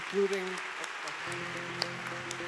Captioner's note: attendees applauding; soft electronic music